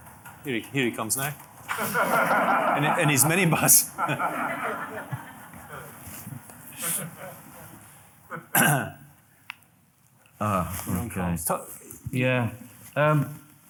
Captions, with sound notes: Didn't have any issues all the time. (audience laughing) - Rose of say to cut her uncle a broken bottle than have any shoes on, serves her right, yeah.